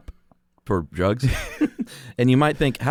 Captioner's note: both laugh